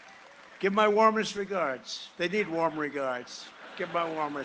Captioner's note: cheering and applause